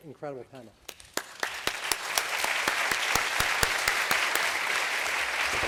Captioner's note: applause